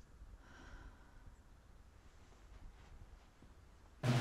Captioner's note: Mabel sighs; patriotic drumming music